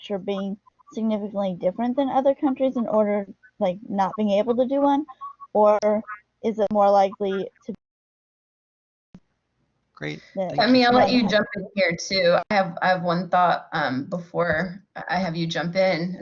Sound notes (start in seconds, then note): 10.4 murmurs